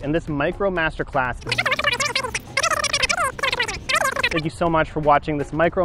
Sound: video scratching

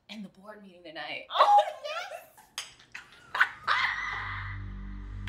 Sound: Ayanna and Nia laughing

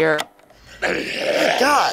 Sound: Frank gargling

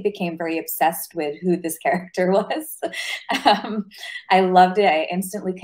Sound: chuckles

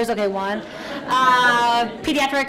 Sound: audience laughs

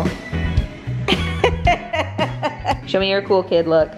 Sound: laughs

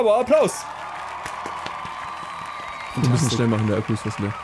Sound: studio audience cheering

